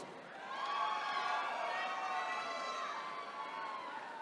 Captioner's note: attendees cheering